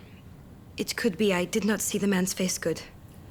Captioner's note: none